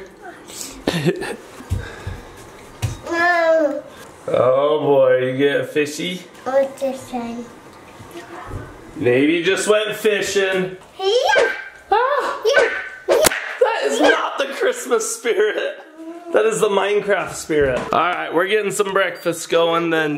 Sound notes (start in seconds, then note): 0.8 person laughing; 11.9 person exclaiming